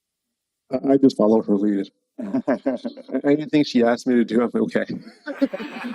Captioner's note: laughs